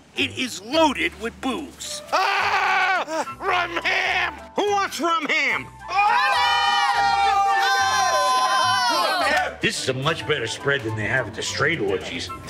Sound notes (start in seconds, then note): 5.9 cheering